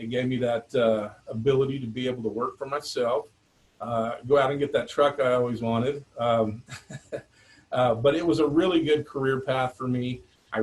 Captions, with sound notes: It gave me that ability to be able to work for myself, go out and get that truck I always wanted. (laughs) But it was a really good career path for me.